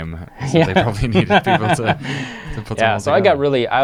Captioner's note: laughs